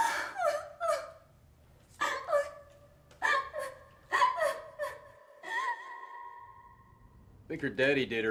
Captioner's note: sobbing